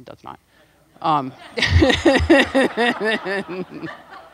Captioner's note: laughing